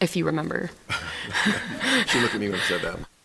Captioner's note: laughter